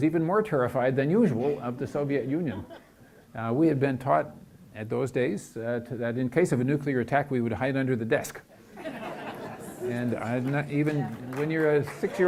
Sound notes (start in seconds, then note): 8.6 audience laughs